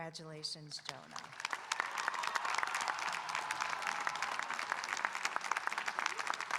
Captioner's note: audience applauding and cheering